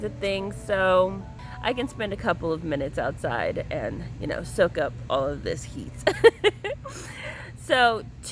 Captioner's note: laughs